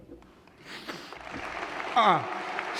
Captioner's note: applause